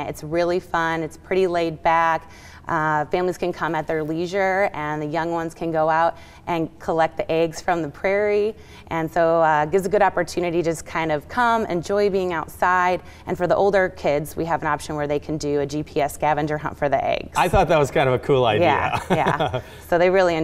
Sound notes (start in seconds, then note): 18.4 laughing